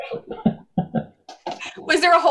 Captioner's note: laughs